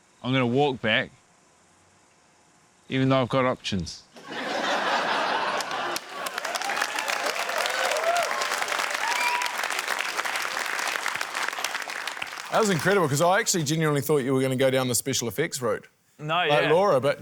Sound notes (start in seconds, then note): 4.1 laughter; 6.3 cheering, applause